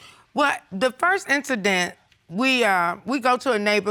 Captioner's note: none